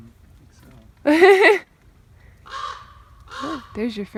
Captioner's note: laughs; loud bird